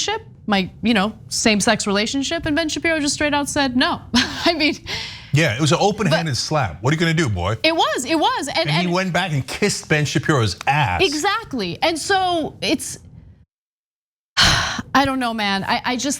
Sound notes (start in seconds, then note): 5.4 laugh